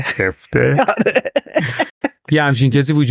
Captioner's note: laughs